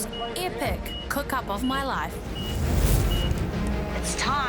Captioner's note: fire crackles